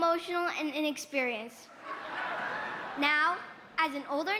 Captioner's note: laughter